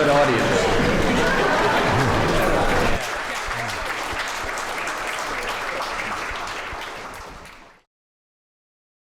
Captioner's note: applause